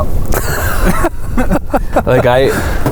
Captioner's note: laughs